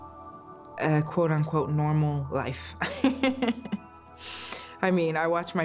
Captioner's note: laughs